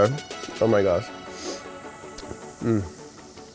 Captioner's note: lips smacking